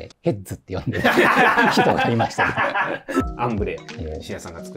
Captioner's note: laughing